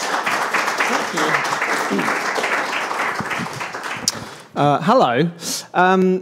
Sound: attendees applauding; clears throat

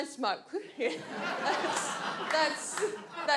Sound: audience laughs

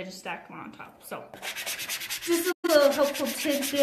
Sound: brushing

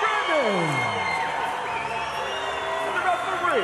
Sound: crowd cheering

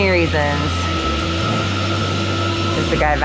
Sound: vacuum whirring

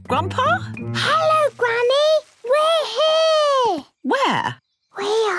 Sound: Peppa whispering

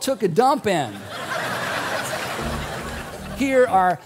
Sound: crowd laughing

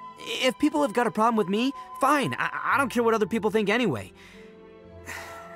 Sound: sigh

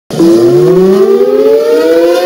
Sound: sirens sound

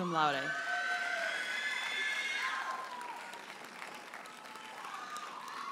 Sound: audience cheers and applauds

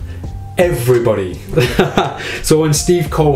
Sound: laughs

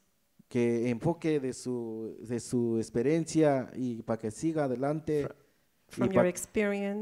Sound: speaks in foreign language

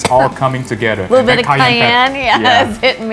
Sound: coughs

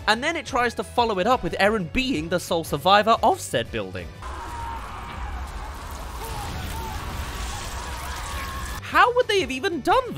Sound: scream* blood splatter

